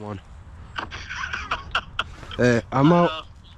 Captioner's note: laughing